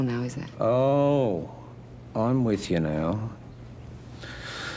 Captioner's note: sarcastically